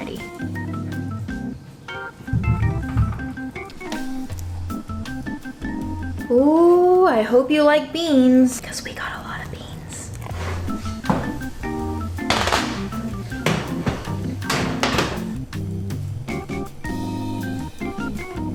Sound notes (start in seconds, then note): 0.2 classical music; 10.3 rattling sound; 15.7 classical music